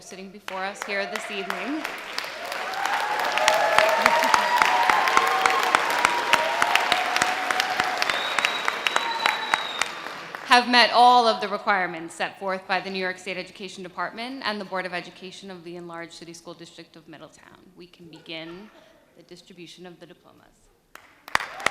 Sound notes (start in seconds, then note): 2.5 audience applause; 2.5 sustained audience cheers; 21.3 audience cheering